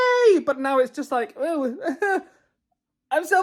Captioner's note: stammers excitedly